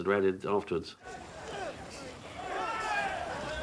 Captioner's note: characters yelling & grunting